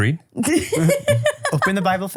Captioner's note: laughs